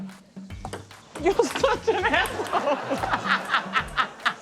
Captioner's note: laughs